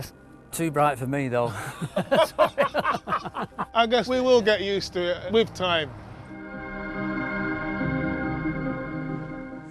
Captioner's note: laughs